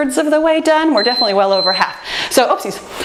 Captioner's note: timer beeps